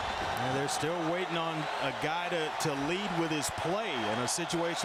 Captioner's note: crowd noise